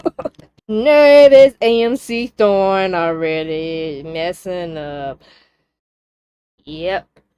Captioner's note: laughter